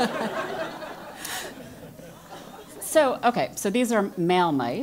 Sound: laugh

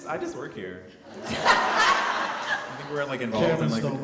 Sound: audience laughing

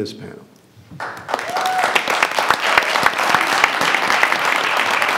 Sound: audience applauds

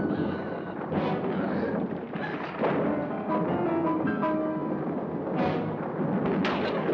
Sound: thunder rolls; suspenseful music

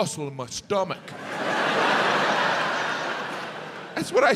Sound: audience laughs

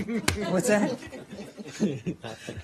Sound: laughter

